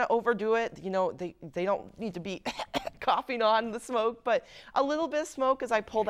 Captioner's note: cough